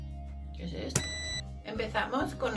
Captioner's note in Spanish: pitido fuerte